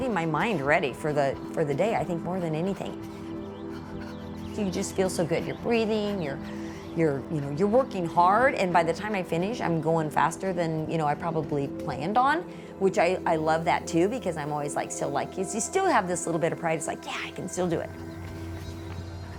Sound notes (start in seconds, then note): 4.7 runner heavy breathing